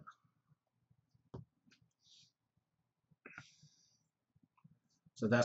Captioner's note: pause